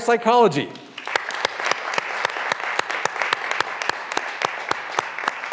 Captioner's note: graduands applauding